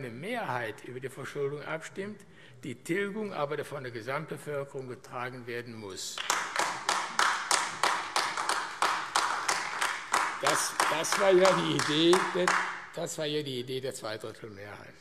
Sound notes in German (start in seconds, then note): 6.1 Beifall AfD